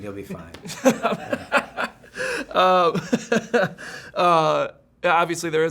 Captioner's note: interviewer laughs